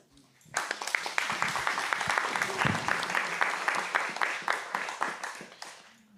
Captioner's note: audience applauding